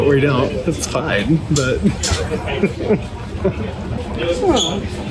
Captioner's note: laughing